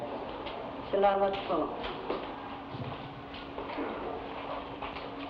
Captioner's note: woman speaking in Tagalog